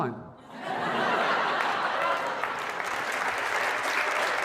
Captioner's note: laughter and applause